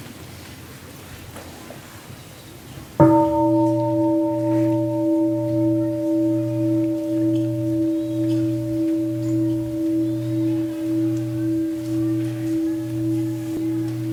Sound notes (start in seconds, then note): 3.0 gong